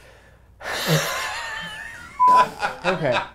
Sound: laughs

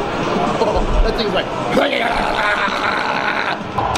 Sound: laughs; yelling

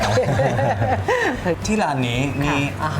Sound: laughing

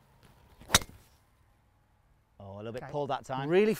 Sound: club hitting ball

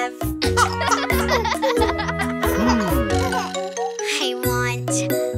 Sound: chuckling

